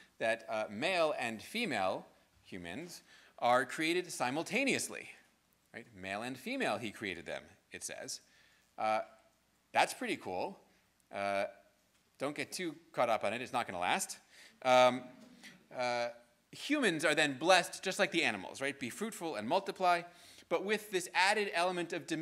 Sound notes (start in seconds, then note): 15.3 students laughing